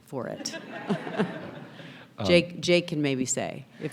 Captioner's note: people laughing